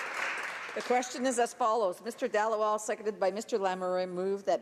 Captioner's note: applause